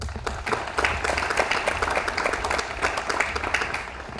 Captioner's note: audience applauds